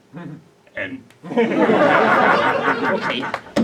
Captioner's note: Murray and the audience laughs